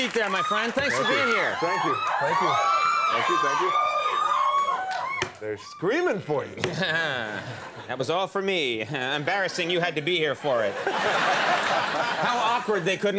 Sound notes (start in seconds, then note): 0.0 audience clapping; 0.0 audience screaming; 6.9 laughs; 11.4 audience laughing